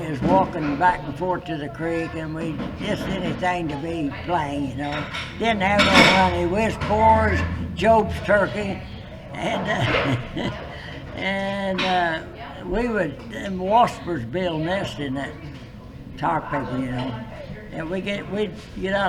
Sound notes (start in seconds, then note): 10.0 laughs